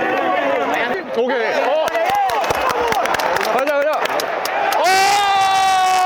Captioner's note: seal applause reappears in chance situation